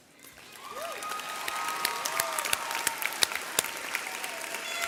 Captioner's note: audience cheering